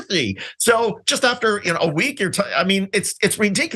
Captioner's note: laugh